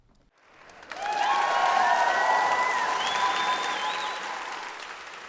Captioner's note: cheering